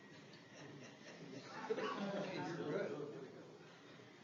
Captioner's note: audience murmurs